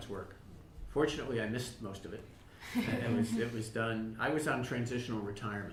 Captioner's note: laughter